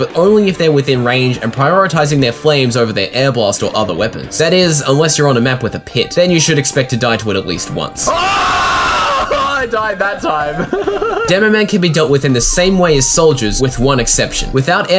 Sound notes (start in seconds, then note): 7.9 in-game, shouting; 10.5 laughter